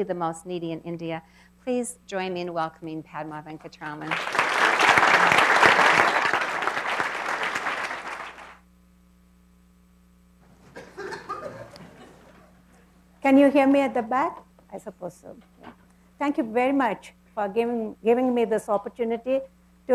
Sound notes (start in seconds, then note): 4.0 clapping; 10.7 cough